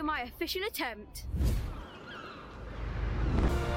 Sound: seagulls squawking; epic music

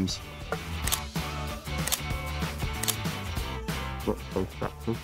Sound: camera clicks

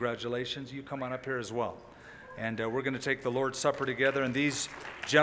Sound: applause

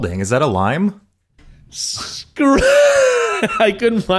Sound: laughing

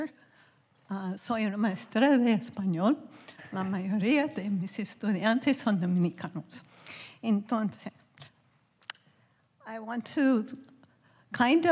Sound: speaking spanish

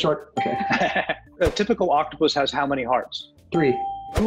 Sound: chuckles

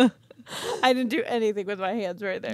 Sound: chuckling

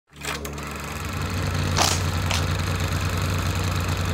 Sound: motor running

